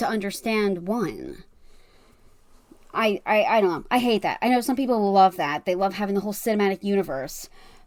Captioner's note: none